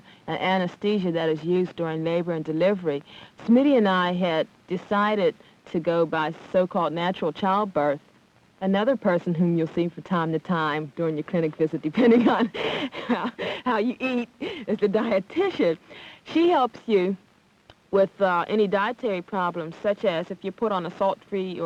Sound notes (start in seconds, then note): 11.9 laughs